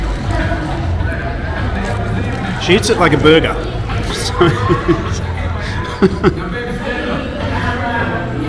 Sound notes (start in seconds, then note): 3.9 laughing